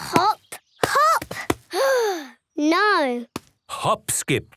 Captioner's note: sigh